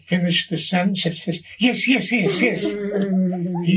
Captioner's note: all laughing